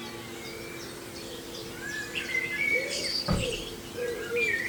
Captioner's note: loud birdsong